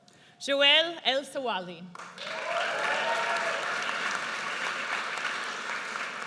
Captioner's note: audience cheers